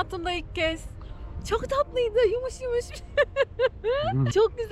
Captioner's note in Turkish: kahkaha